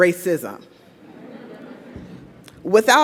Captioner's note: audience laughs